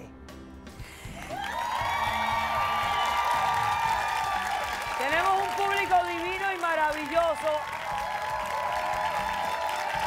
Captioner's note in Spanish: Aplausos